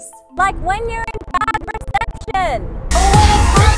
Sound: static crackling; loud rock music

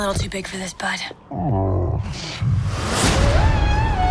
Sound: Tuk Tuk grunt sighs

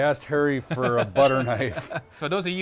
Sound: laughing

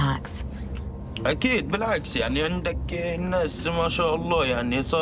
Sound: speaking Arabic

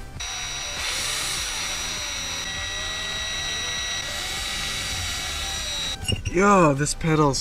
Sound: drilling

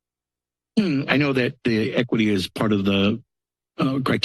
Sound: clears throat

